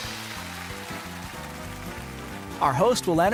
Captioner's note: sfx: audience applauding; sfx: drum roll